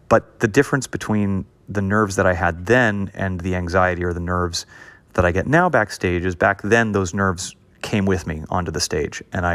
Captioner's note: none